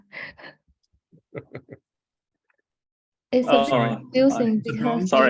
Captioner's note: chuckling